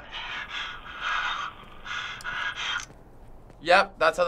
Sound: on recorder: nervous panting

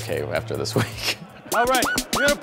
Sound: laughs

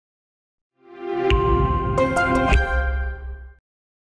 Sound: text chiming

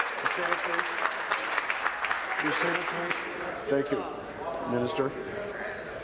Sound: applause

